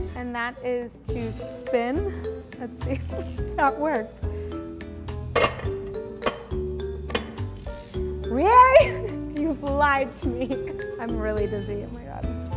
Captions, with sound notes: and that is to spin, let's see if that worked. (bowl clinking) Rie, you've lied to me. I'm really dizzy, oh my God.